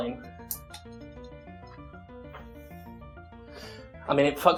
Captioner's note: light clicking